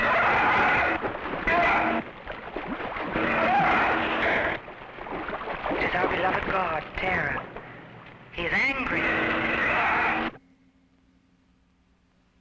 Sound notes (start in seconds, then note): 0.0 animal screeching; 9.3 animal roaring